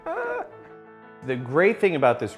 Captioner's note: laughs